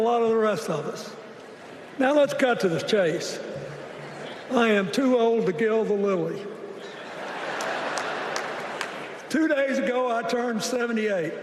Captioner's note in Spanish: Aplausos